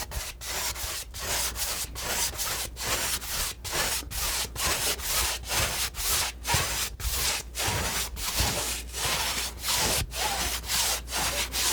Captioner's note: scratching